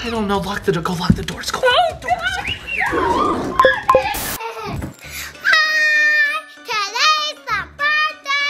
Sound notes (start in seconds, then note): 1.8 mom screaming; 3.6 remote beeping; 3.9 TV static